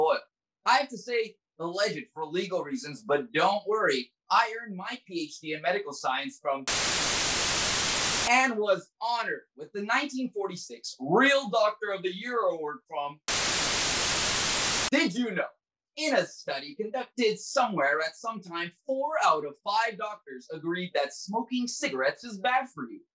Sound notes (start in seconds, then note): 6.6 static; 13.2 static